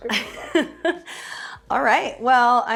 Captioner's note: chuckles